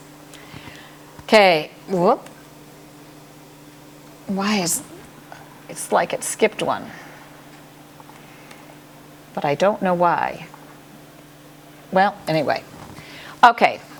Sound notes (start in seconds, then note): none